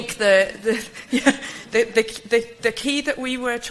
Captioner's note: light chuckle